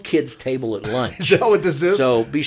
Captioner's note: laughing